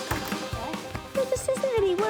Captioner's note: shouting